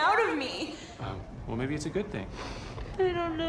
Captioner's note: sniffles